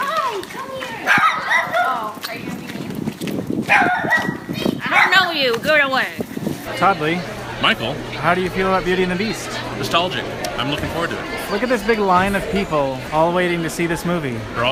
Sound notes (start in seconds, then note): 0.4 excitedly; 3.6 dog barks; 3.6 dog barks more